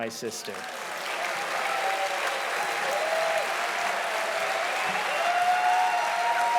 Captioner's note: audience applauding loudly